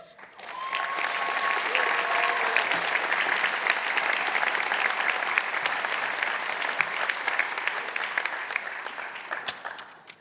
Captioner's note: applause